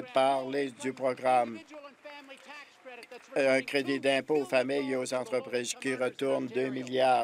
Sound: applause

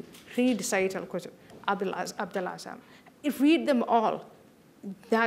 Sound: non-english

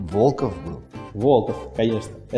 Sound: voice-over

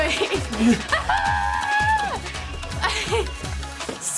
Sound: giggling

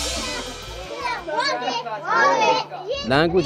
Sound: indistinct chatter

